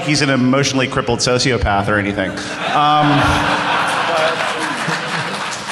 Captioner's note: laughter